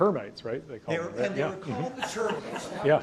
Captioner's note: audience laughs